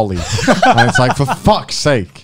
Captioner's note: both laugh